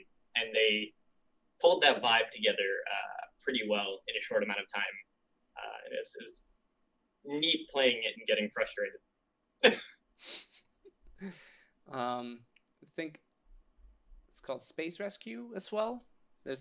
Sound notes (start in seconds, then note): 9.6 laughter